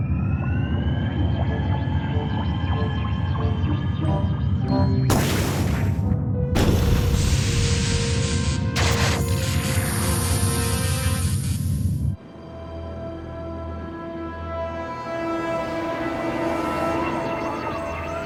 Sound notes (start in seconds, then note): 7.9 alarm buzzing; 12.1 ominous music